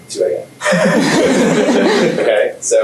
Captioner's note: laughter